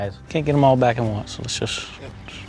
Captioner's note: voiceover